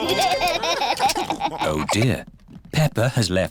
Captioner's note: laughter